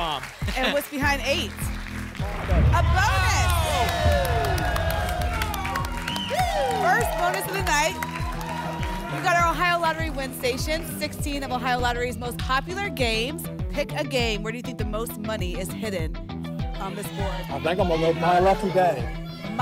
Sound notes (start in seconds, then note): 2.2 boom; 5.1 applause and cheering